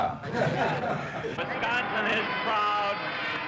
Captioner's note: laughs; laughter